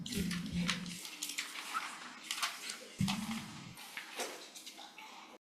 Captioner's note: papers shuffling